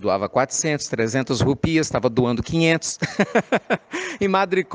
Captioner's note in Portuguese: risadas